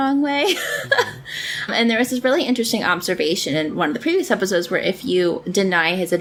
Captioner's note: laughs